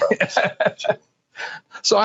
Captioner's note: laughing